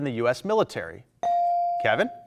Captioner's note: buzzer dings